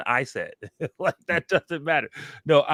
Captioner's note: laughs